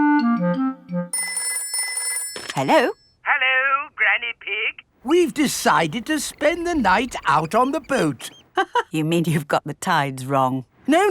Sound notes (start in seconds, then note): 1.1 telephone ringing; 8.8 laughs